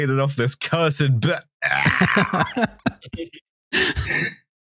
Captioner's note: choking sound; laughs